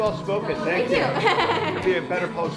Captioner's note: laughing